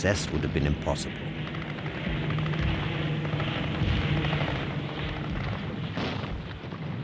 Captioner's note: plane engine roars; gunfire